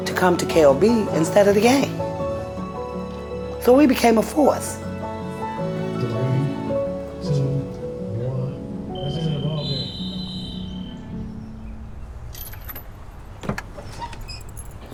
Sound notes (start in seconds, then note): 8.9 whistle blows